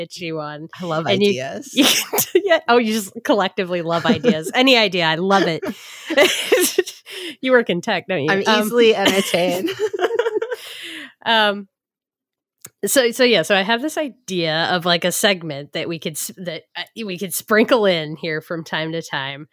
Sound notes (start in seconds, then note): 5.2 both laugh